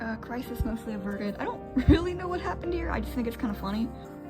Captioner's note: laughs